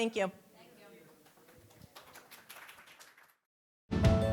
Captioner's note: applause